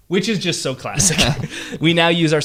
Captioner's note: laughs